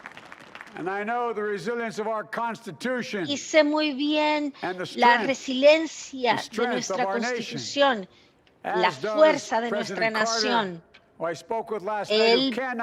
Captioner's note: applause